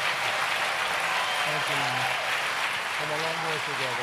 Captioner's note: applause